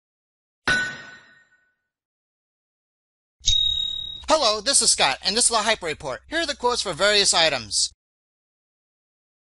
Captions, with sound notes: [ Sound of metal being hit ] [ Sound of a cling of silver coin ] Hello, this is Scott and this is the Hyper Report. Here are quotes for various items.